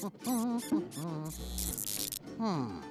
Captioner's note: rat squeaking; buzzing